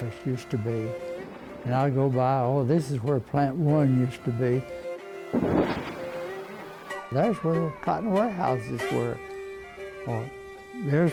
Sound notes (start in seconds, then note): 5.3 crashing